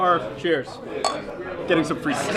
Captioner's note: glass clinks